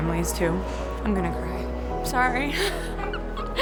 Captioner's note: laughs